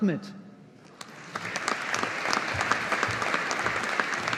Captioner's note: audience applauding